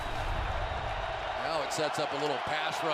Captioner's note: swoosh